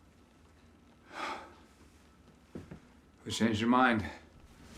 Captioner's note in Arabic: مايكل ينهد